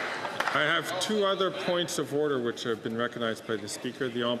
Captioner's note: applause